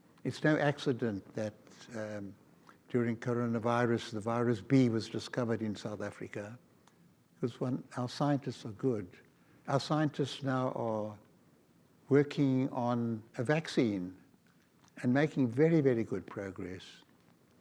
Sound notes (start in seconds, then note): none